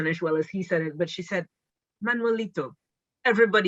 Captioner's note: speaking Spanish